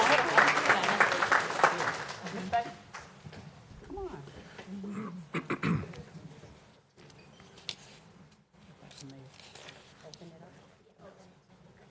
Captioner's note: applause